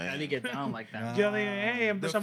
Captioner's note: speaking Spanish